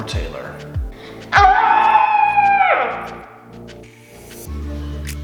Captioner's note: frustrated screaming